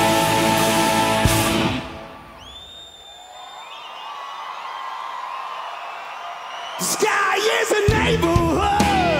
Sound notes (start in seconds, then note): 0.0 rock music stops abruptly; 2.7 audience cheers; 9.0 electric guitar strums